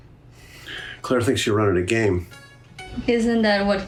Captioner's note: sighs